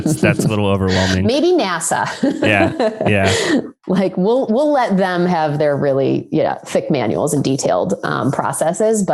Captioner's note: laughs